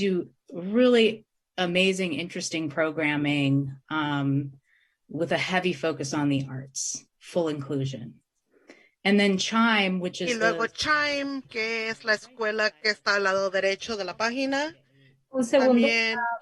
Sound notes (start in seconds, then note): 10.7 translator speaking in Spanish